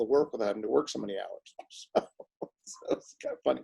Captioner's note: laughs